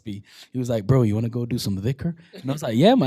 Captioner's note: non-english; non-english